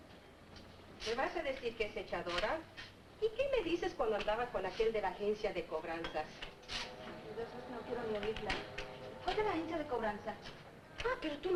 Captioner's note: family speaking Spanish